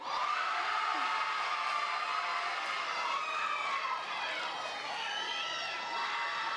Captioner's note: audience cheers; audience applauds